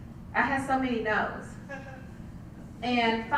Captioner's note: laugh